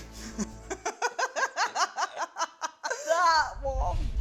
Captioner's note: laughs